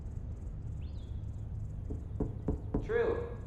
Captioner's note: light knocking on door